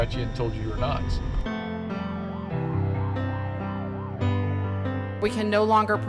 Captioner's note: sirens